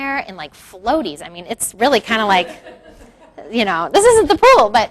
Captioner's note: crowd laughs